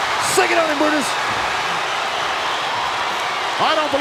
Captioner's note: audience cheering